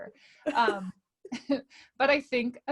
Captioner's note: laughing